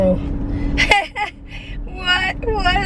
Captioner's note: chuckles